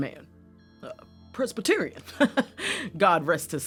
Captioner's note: laughs